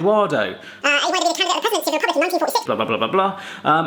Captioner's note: fast chattering